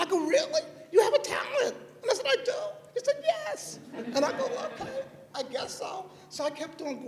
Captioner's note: laughter